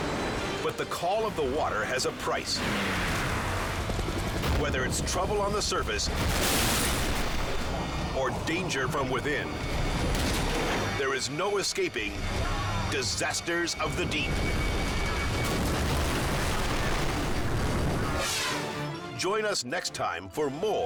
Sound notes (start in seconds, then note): 2.6 waves crashing; 6.1 helicopter crashes; 15.5 boat crashing; 15.5 water splashing; 18.1 air whooshes